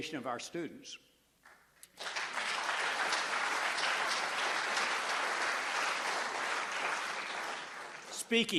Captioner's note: applause